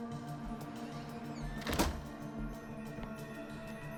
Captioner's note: door creaks, closes